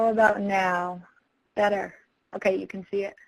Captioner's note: voiceover